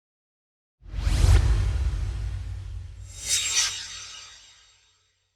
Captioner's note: swoosh